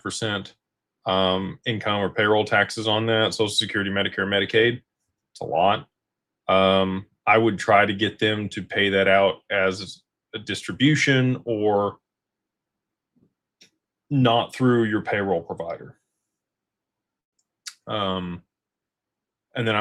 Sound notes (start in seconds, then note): none